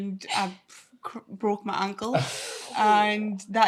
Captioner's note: everyone chuckles